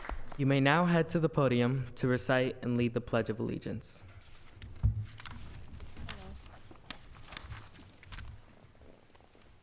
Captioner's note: applause